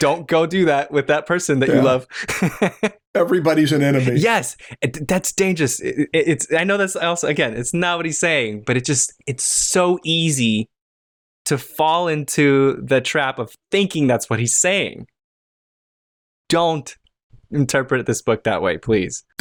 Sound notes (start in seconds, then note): 2.0 laughter